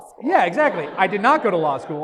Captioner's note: audience laughs